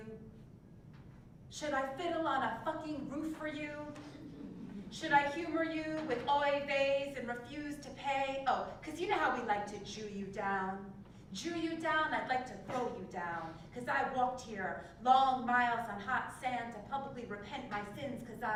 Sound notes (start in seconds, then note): 4.2 laugh